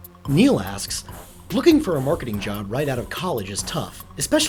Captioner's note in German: Voice-over